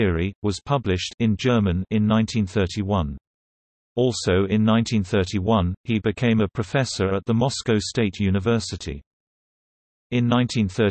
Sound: in German

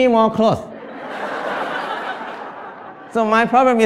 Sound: Smijeh

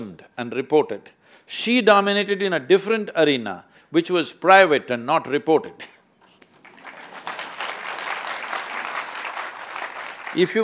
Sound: applause

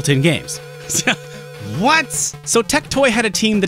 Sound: laughing

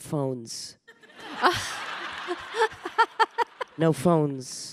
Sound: audience laughing

